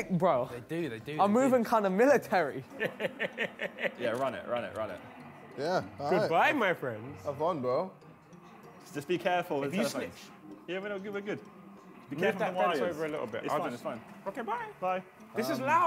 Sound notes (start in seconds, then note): 2.8 man chuckles